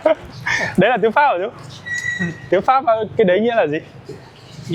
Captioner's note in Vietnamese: tiếng cười